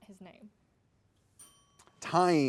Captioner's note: bell dinging